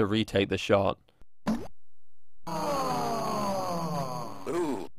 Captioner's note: golf ball plops; spectators sigh